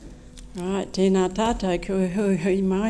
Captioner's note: speaking maori